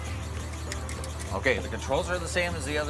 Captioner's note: seat belt clicks